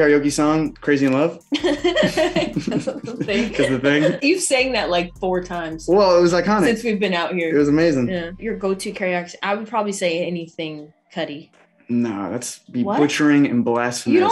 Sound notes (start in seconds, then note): 1.5 laughing